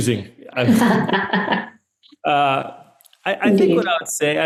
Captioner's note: laughs